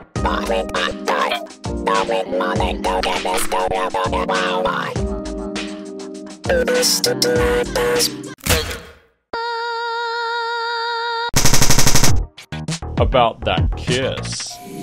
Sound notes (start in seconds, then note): 9.3 screams